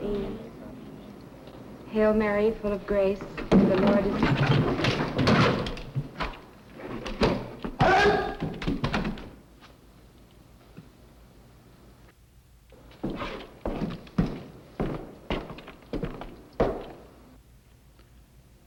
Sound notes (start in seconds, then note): 3.4 clattering; 7.8 man shouts